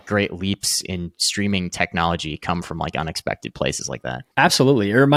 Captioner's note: none